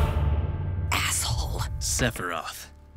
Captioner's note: whispers